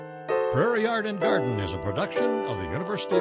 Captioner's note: soft piano music; voiceover